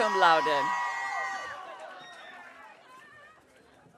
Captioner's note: audience cheering